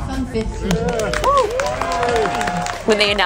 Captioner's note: audience cheering